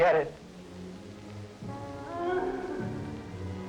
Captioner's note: moaning